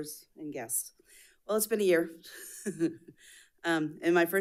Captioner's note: chuckles